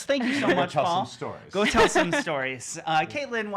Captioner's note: laughing